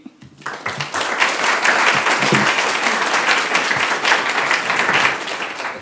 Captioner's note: applause